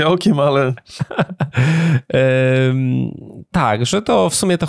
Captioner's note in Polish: śmiech